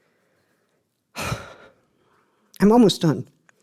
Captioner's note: deep exhale